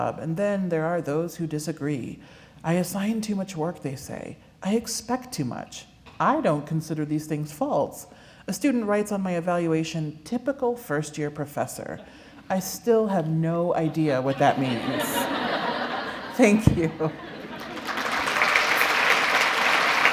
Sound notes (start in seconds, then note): 14.2 laughter; 17.4 applause